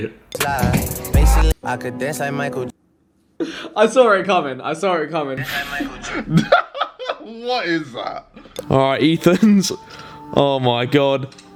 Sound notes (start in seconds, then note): 5.4 laughing